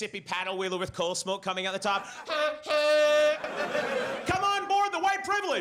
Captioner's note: imitating honking